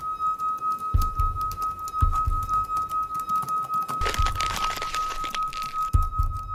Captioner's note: rustling paper